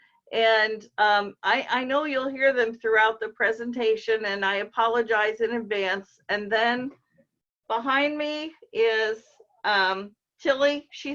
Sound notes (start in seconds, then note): none